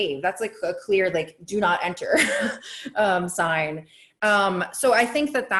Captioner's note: laughs